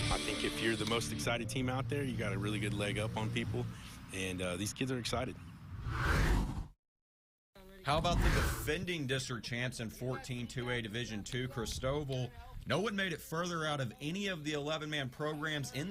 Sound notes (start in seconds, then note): 5.7 air whooshes